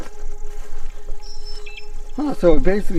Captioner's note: mysterious music; camera buzzing